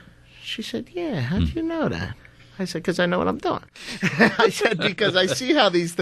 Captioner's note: laughs